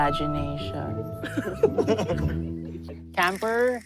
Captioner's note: chuckling